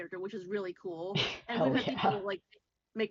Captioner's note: laughs